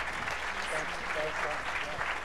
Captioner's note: applause